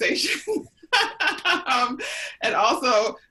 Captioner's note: laughs